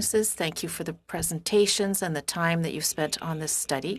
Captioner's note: speaking in French